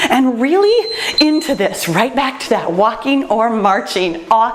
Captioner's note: timer beeps